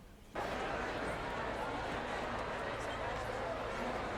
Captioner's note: crowd noise